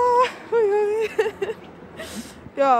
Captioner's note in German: lacht